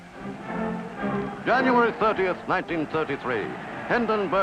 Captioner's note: crowd cheering